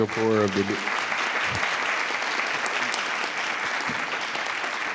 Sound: everyone applauding

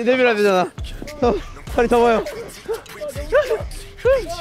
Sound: shivering

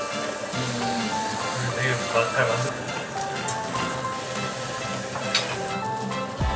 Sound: inhaling noodles

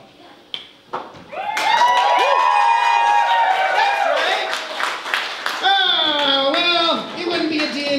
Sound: applause

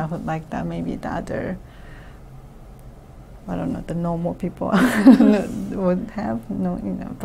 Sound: laughs

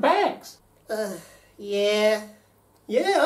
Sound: sighs

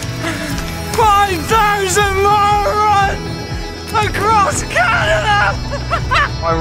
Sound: laughs

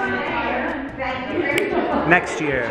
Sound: snaps

